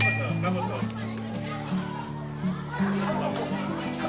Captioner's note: bell dings